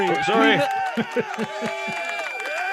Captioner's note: audience cheering